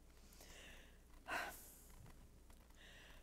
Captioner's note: sigh